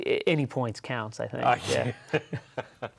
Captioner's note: laughs